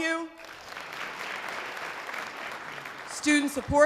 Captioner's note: audience applause